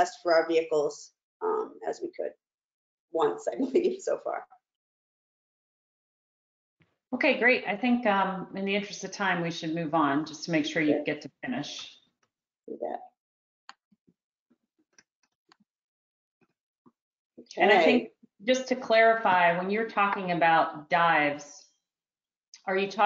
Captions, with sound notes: as a test for our vehicles as we could, once (chuckles) I believe, so far. - Okay great, I think in the interest of time we should move on, just to make sure you get to finish. - Okay! - Just to clarify, when you're talking about dives,